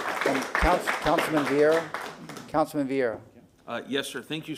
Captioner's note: applause